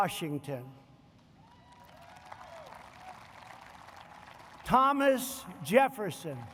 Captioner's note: applause